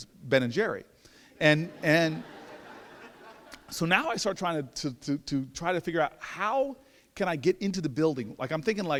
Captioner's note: laughter